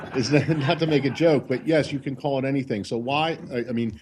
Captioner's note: laughter